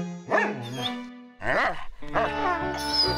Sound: yelps; whining

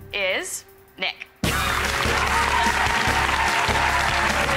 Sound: applause

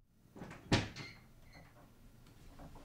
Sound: door opening

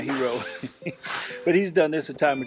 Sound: chuckles

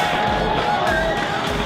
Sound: cheering

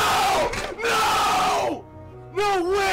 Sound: unholy screams; unholy screams continue

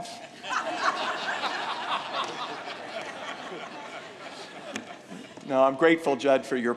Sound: laughing

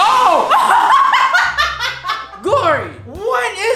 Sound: laughs

